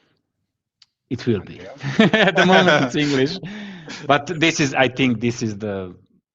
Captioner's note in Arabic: ضحك